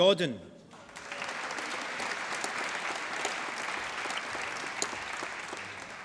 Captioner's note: applause